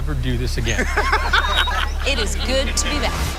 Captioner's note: all laughing